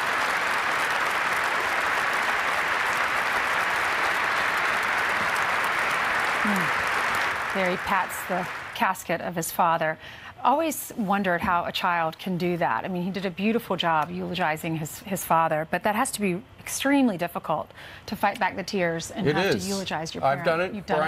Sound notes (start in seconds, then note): 2.2 applause